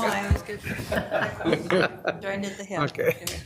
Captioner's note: all laughing